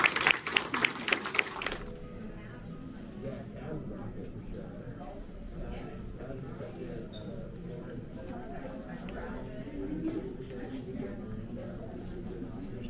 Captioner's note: people chattering